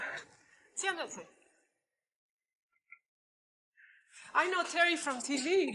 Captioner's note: foreign language